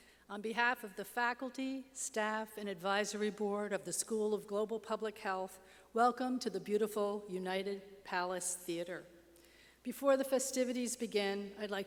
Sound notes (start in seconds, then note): none